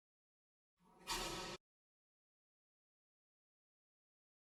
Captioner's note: garage door opens